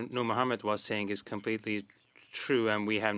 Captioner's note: speaking French